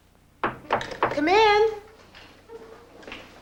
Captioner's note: knock on door